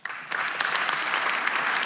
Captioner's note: audience applause